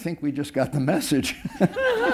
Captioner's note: laughter